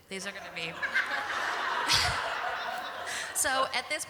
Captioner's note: laughter